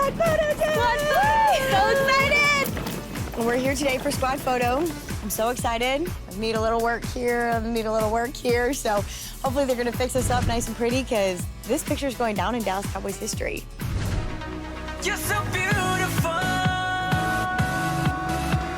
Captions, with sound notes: - Squad photo time! (cheering) - So excited! - We're here today for squad photo. I'm so excited. I need a little work here, need a little work here. So hopefully they're going to fix us up nice and pretty because this picture is going down in Dallas Cowboy history. (dramatic music)